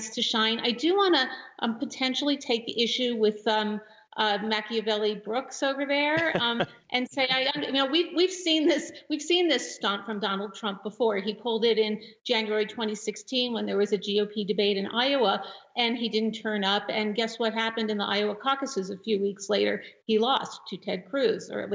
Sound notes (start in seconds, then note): 6.1 laughter